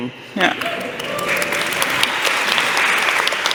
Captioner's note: applause